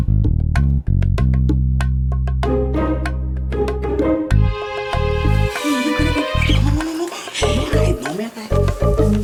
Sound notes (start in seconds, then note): 5.6 Nina laughs amused